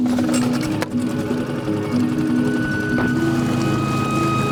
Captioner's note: boat engine starts; dramatic music